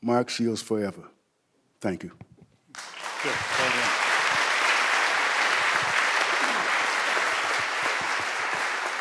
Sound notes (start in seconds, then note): 2.7 audience applauding